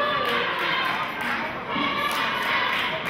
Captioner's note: chanting